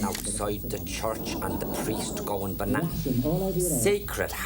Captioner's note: Neighbours TV volume increases